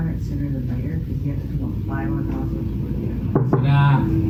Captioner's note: knock on door